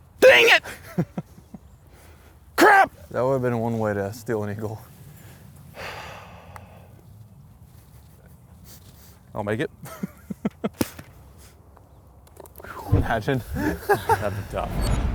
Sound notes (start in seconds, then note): 5.8 exhales; 10.4 laughs